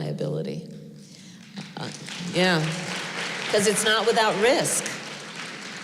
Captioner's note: applause